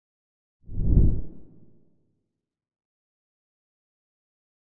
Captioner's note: logo whooshes